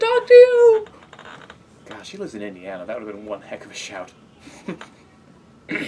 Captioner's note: laugh